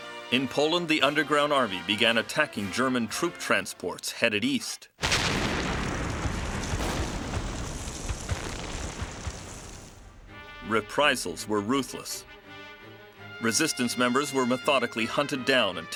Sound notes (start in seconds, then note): 5.0 bomb explodes; 10.0 dramatic music